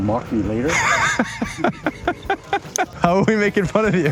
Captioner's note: laughing